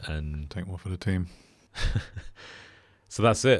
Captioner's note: laughs